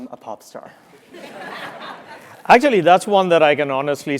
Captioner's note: laugh